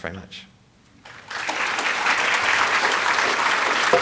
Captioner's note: applause